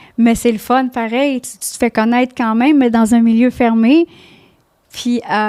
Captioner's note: in french